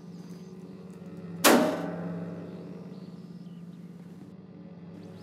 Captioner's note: metal clangs